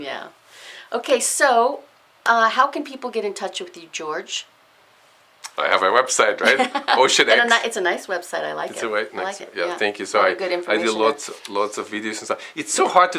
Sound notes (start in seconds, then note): 6.4 laughs